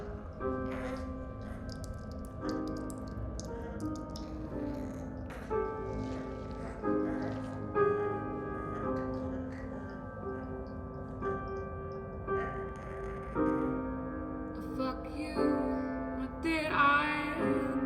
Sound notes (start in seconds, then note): 1.5 blood drips; 7.7 Sarah stops sobbing